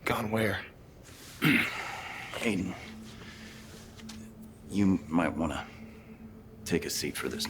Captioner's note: coughs